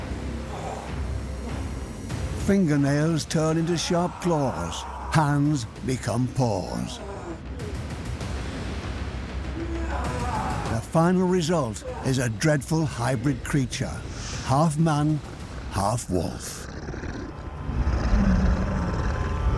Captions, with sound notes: Fingernails turn into sharp claws. Hands become paws. (groaning) The final result is a dreadful hybrid creature. Half man, half wolf. (snarls)